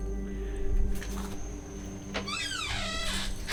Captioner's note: door creaks; door clicking